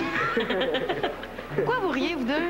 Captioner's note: Rires